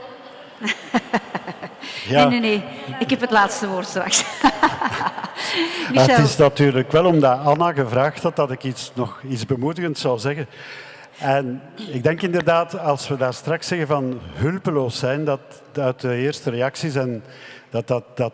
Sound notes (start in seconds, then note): 0.5 laughs; 2.8 speaking in Dutch